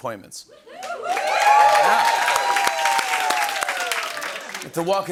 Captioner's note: cheering and applause